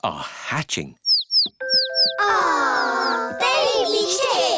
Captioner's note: chicks cheeping